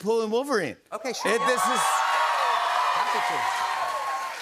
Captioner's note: cheers and applause